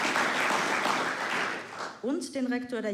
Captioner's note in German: Applaus